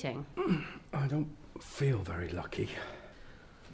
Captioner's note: groans